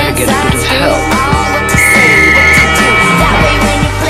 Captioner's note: blows whistle for help